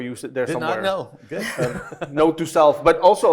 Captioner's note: everybody laughing